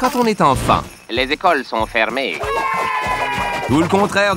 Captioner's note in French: cris de joie